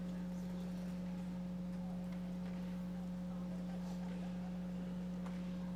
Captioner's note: audience taking amongst themselves